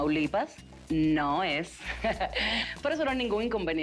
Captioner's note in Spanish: Ríe